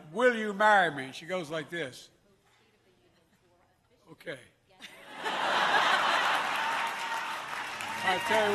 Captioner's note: laughter